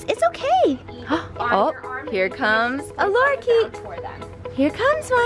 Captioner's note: gasps